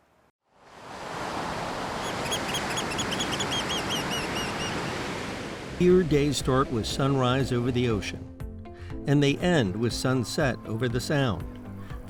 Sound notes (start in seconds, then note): 0.6 waves crashing; 2.0 seagulls cawing